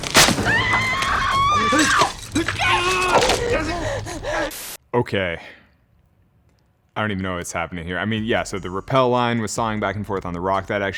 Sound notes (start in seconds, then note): 0.2 rope snapping; 0.4 Jessie screams